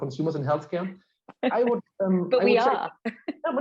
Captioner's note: chuckling